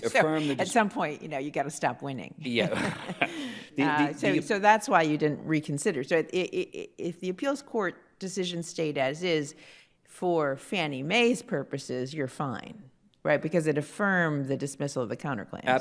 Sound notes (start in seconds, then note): 2.5 both laugh